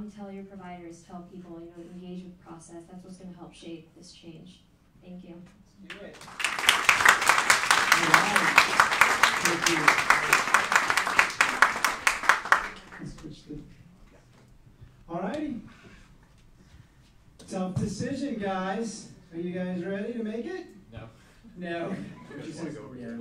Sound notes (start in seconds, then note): 7.4 applauding; 22.4 chuckles